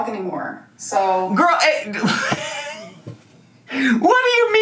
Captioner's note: laughs